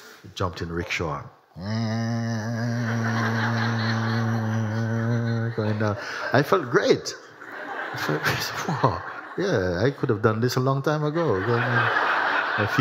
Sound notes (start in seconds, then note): 1.5 makes rickshaw sound; 4.2 laughter